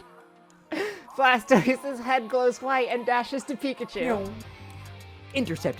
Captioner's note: laughing